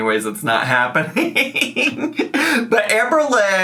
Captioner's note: laughs